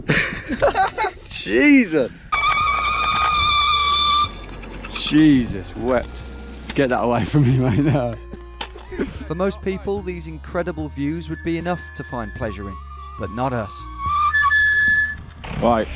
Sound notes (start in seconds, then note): 0.0 laughing; 2.3 high-pitched squealing; 8.5 synth music playing; 13.4 squealing continues